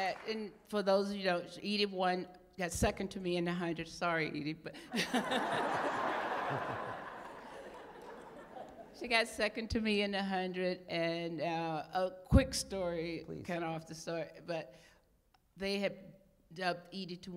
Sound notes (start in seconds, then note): 7.5 laughter